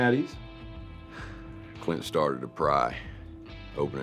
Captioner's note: sighs